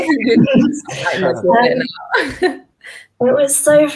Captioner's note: speakers laughing